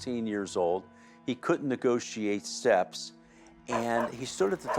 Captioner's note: dog barks